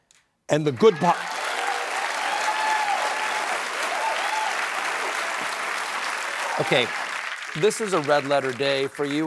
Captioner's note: applause